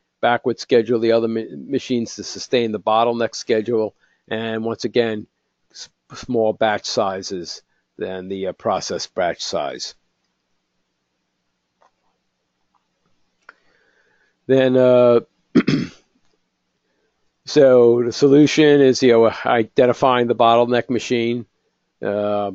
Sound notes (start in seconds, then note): 15.5 cough